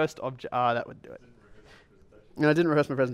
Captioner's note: voiceover